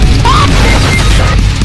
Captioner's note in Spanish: FortniteDeathSFX.mp3